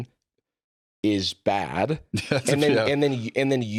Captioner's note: laughs